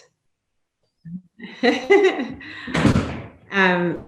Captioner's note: laughing